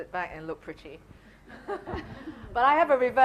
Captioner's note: laughing